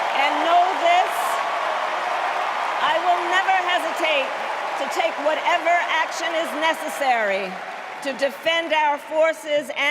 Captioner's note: cheers and applause